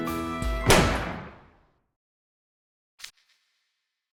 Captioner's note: bang!!!!